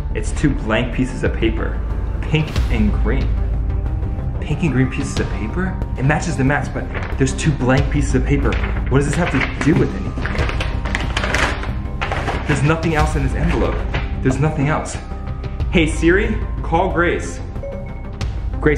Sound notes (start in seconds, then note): 11.2 envelope crinkles; 17.6 phone beeps